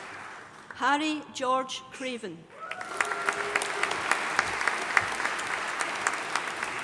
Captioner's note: audience applauding